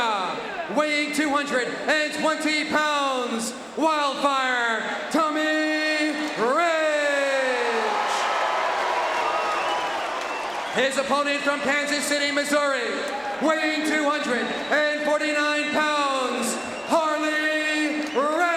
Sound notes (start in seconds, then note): 7.8 audience cheering